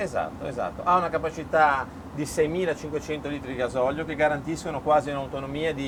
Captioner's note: speaking in foreign language